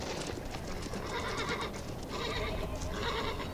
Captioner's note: horse neighs